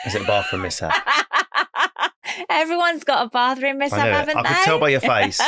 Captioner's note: laughing